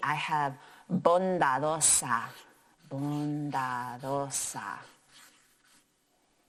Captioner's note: speaking in foreign language